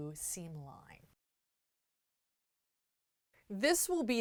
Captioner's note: no Sound Present